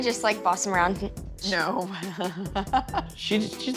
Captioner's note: chuckles